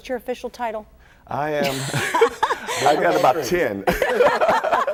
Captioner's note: laughter